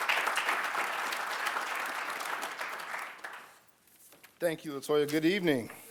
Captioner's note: applause